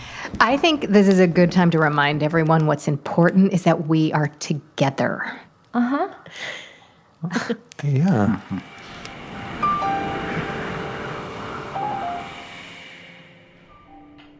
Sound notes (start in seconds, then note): 0.1 footsteps; 8.4 static whoosh; 11.7 light jazz piano